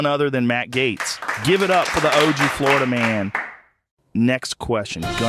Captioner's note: scattered applause